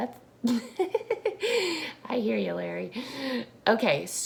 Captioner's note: laughs